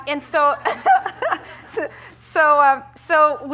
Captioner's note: laughter